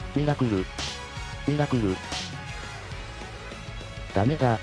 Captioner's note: smack!!